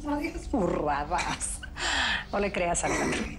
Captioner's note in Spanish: Ríe